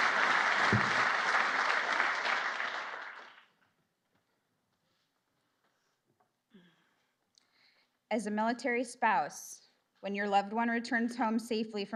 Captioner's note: applause